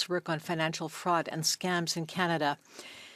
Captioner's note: speaking French